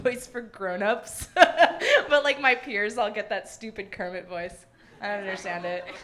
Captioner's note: laughs; audience laughing